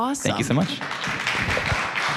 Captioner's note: applause